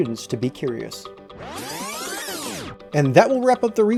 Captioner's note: electronic zipping